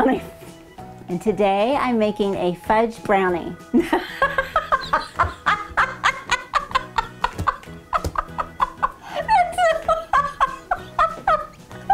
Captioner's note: laughing